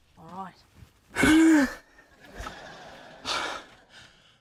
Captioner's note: exhales